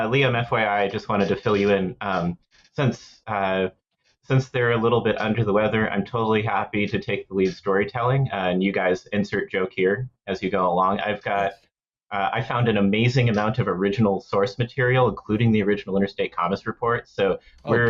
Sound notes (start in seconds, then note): 11.4 quietly